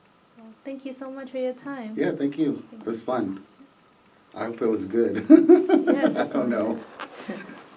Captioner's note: laughs